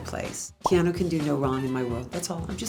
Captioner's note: bubble pops